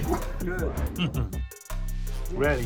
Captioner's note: laughing